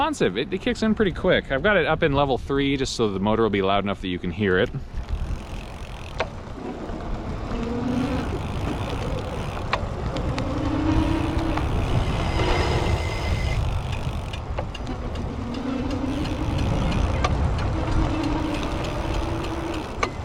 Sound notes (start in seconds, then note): 8.0 electric motor whirs